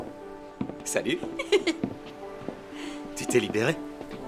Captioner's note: laughing